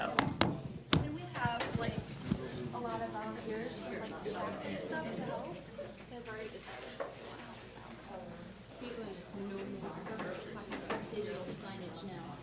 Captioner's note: students discussing